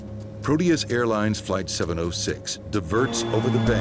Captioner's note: voiceover